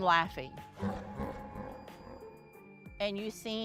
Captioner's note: warped laughter